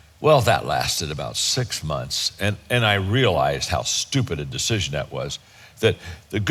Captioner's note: none